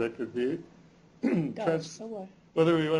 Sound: non-english speech

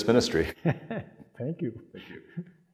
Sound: chuckling

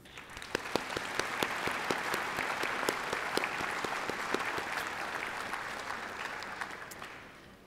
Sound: applause

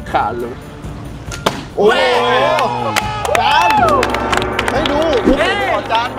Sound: applauding

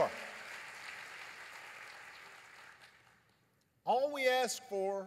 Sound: applause

